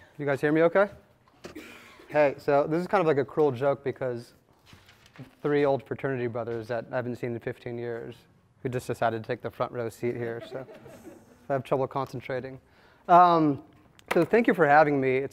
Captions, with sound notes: Can you guys hear me okay? Hey, so this is kind of like a cruel joke because three old fraternity brothers that I haven't seen in 15 years who just decided to take the front-row seat here, so. (attendees laughing) I have trouble concentrating. So thank you for having me.